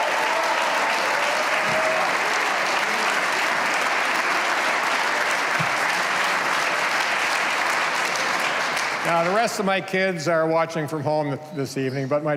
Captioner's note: cheers and applause